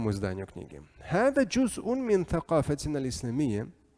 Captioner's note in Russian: Говорит на арабском